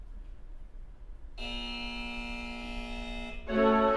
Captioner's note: buzzer